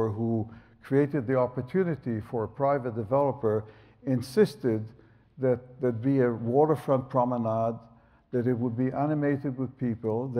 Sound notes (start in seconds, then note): none